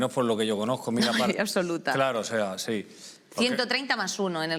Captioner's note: laughs